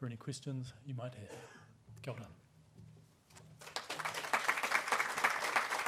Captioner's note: applause